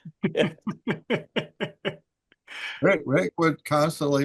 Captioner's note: laughs